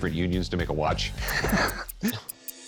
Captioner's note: laughs